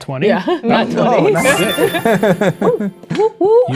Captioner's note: triumphant beeping sound; players laughing